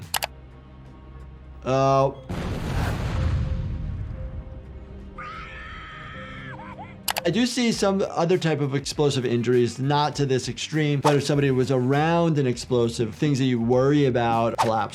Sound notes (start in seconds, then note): 0.3 low ominous music; 2.2 explosion blasting